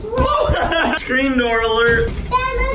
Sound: laughs

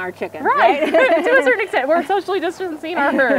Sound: both laughing

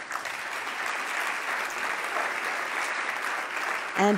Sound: loud clapping

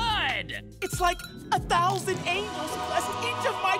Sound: none

